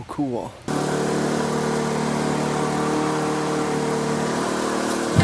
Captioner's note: engine revs